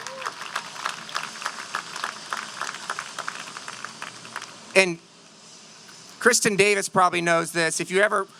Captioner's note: applause